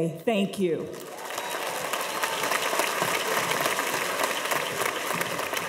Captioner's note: cheers and applause